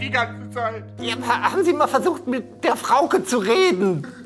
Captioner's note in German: verstellt